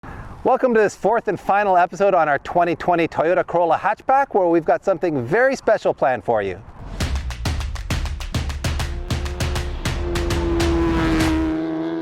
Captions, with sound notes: Welcome to this fourth and final episode on our 2020 Toyota Corolla hatchback where we've got something very special planned for you. (drumming) (car revs)